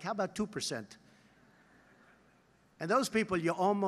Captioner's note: laughter